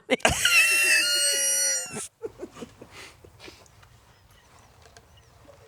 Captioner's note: chuckling